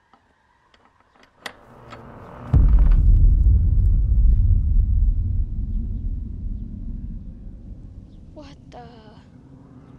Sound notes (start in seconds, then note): 0.7 door creaking; 1.7 dark dramatic music